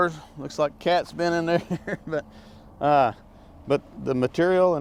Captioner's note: laughs